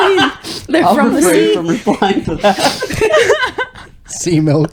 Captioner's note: laughing